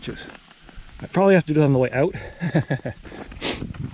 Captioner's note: nervous laughter